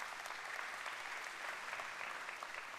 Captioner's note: applause